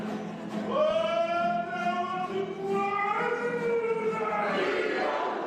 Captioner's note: shouts